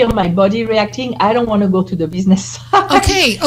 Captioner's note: laughs